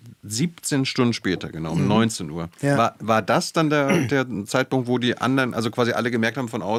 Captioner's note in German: räuspern